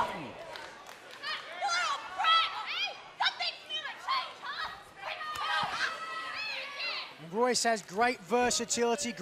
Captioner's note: crowd chatter